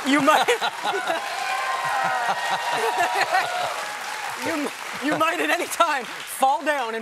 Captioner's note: cheers; laughter